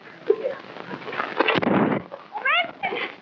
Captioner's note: gun firing